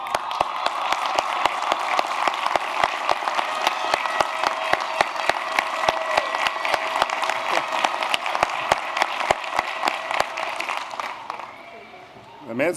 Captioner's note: applause